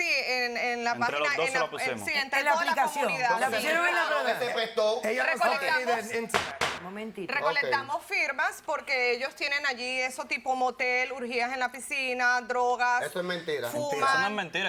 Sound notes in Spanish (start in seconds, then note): 5.3 Hablan al unísono